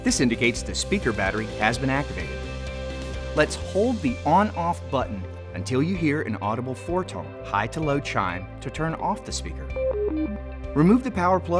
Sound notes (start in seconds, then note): 9.8 four tone high-low chime